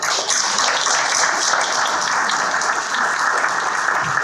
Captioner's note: audience clapping